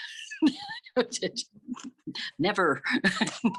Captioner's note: laughing